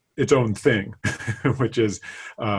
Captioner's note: laughing